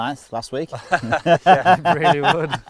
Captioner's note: coaches laugh